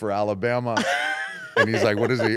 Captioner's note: laugh